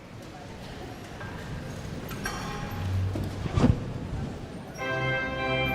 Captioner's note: audience members chattering indistinctly